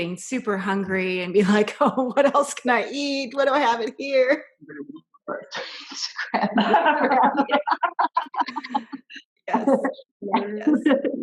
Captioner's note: laughter